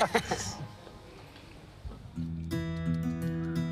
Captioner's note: everyone laughs; rustic music